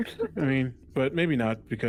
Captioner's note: laughter